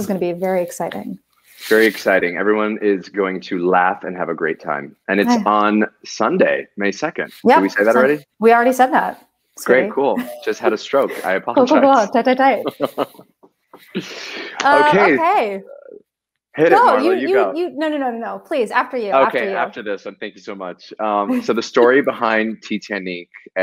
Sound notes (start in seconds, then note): 12.5 laughter